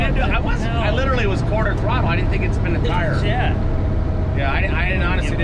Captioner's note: guy laughing